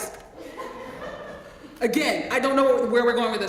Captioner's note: laugh